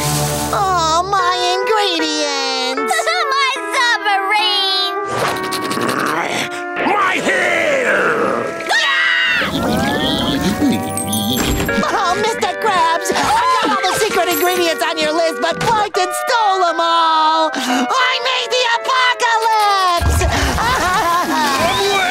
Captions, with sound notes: -Aww, my ingredients! -Aww, my submarine! [growling] My hair! [screaming] [humming] Oh Mr. Krabs! We got all the secret ingredients on your list, but Plankton stole them all! I made the apocalypse! [crying]